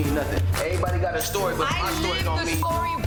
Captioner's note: beep